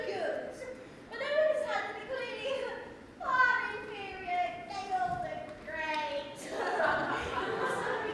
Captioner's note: laughter